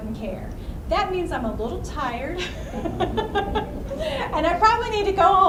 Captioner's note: laughs